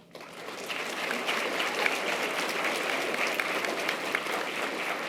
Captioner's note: audience applause